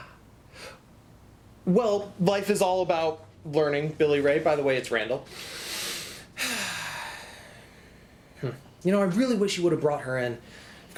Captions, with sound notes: - Ah. Well, life is all about learning, Billy Ray. By the way, it's Randall. (breathes deeply) Hm. You know, I really wish you would've brought her in.